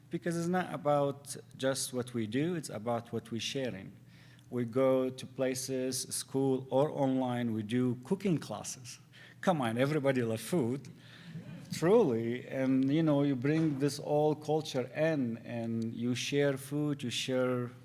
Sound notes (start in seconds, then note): 10.9 audience laughs